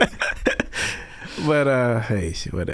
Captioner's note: laughing